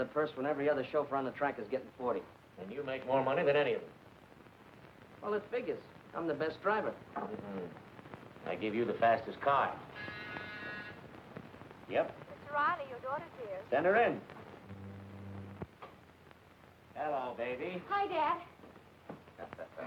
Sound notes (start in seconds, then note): 9.9 buzzer blaring